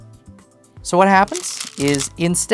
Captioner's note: stones rattling